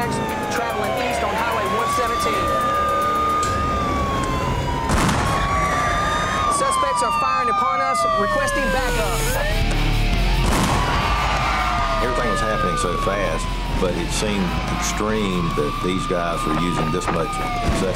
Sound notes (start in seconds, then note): 4.9 gunshot; 10.4 gunshot